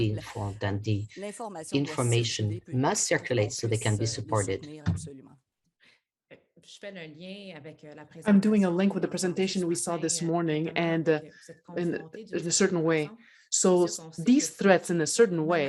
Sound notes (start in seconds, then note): 6.3 speaks French